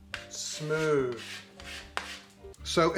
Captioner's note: scraping plastic